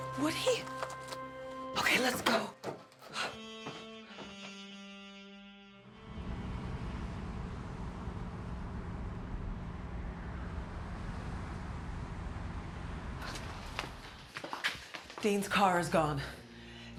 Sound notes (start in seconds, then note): 3.1 gentle music; 5.9 car humming